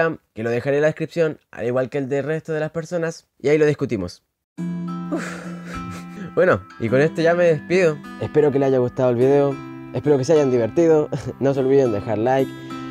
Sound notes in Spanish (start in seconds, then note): 5.0 Suspiro de .mp3